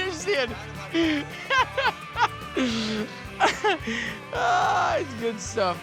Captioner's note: swearing, laughing; continues laughing